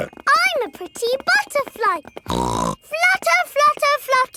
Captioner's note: snorts